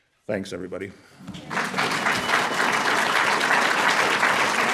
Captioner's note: applause